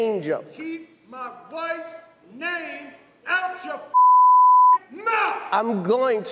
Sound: beep

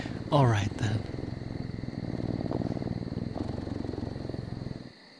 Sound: purring intensifies

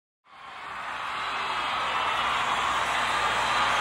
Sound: audience cheering

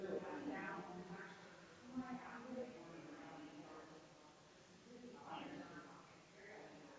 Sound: people chattering distantly continues

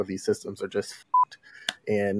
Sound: beep

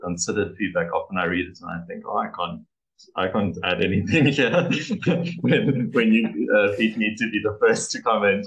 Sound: laughs

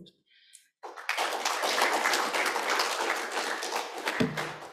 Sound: applause

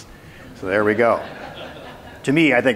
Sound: crowd laughs

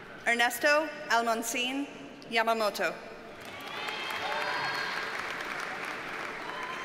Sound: audience cheers and applauds

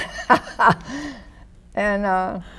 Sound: Lily laughs

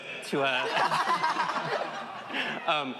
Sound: laughing

